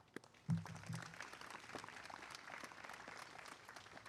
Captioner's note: applause